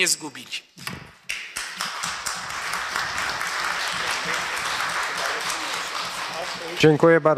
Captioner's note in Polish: oklaski